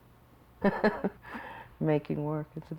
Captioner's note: laughs